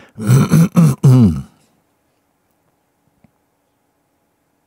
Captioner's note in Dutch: stilte